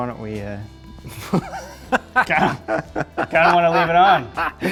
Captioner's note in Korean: 웃음